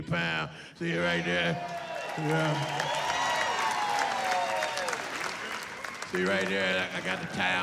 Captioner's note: cheering